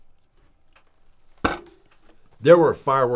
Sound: thuds gum on desk

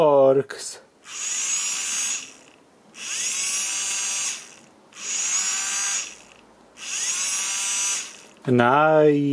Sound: electric motor making sound

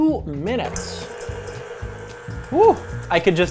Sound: whirring

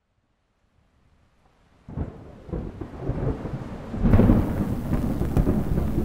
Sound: heavy rain whooshing; thunder rumbling; television static hissing

